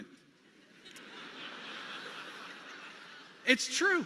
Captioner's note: audience laughing